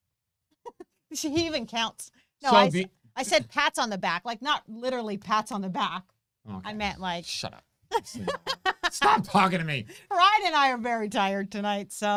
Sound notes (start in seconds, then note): 0.3 chuckles; 7.9 laughs